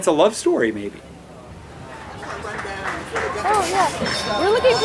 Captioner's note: city bustling